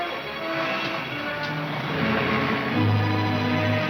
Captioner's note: car starting; exciting orchestra music